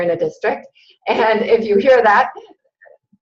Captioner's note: laughing